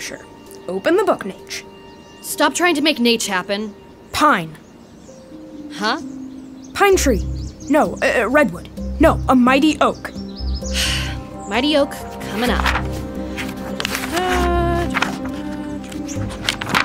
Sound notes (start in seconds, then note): 10.7 sighs; 12.1 humming, pages turning